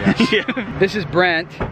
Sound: laughs

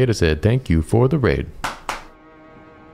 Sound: clap

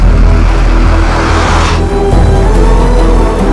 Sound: engine revving

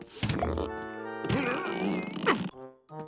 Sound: grunting

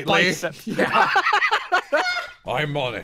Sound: laughter

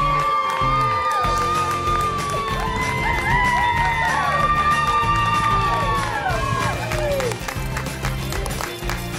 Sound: cheering and applause

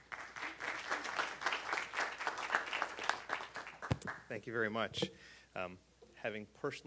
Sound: applause

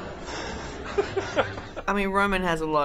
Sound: laughs

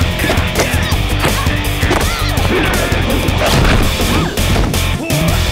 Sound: all grunting

